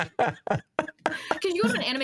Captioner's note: laughing